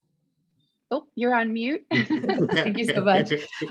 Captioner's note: all laughing